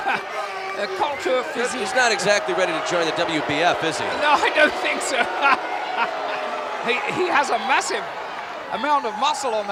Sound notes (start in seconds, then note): 1.6 laugh